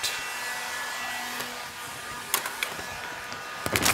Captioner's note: hair dryer noise